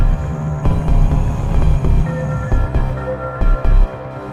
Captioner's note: deep, long growling